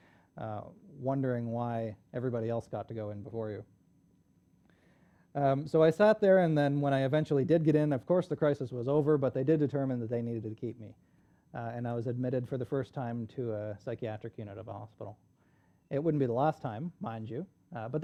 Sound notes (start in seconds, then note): none